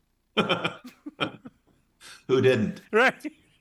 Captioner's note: both laughing